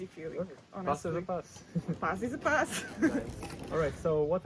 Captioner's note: laughs